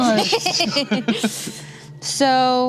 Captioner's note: laughs